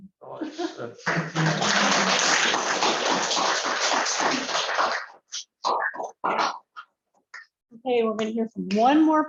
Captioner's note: applause